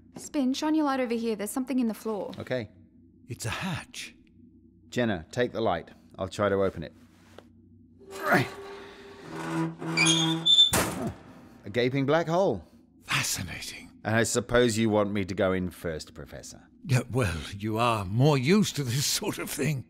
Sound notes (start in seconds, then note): 8.0 hatch squeaks and opens